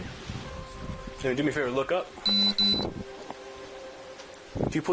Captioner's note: device beeps